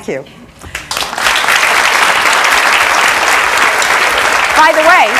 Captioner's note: audience clapping